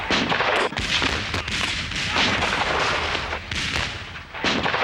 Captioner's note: cannon blows